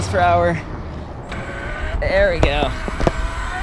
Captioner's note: motor whirring